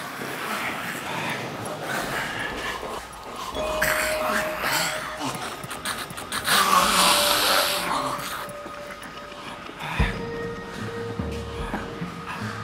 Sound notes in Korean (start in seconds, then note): 3.7 반인간파 좀비 무리의 위협적인 소리; 10.6 긴장한 숨소리